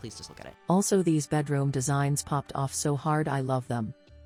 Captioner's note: robot voice